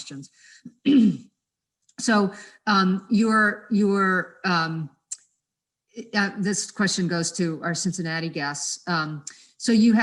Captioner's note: cough